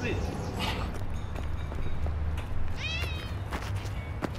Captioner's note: cat meows